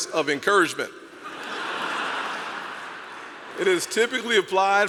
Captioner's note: audience laugh